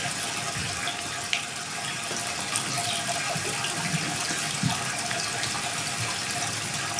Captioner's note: water trickling continues